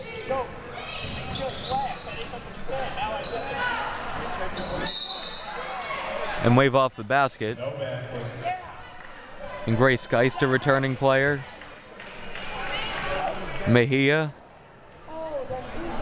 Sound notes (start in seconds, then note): 0.2 audience chattering; 4.8 whistle blowing